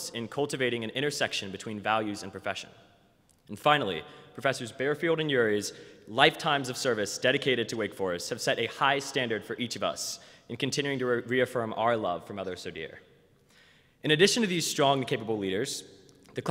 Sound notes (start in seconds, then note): none